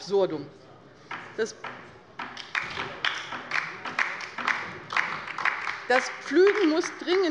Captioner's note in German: Beifall bei der LINKEN